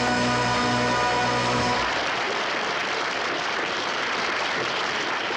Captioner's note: audience applauds